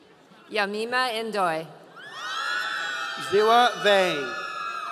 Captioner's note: audience cheering